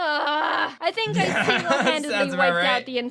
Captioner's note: laughs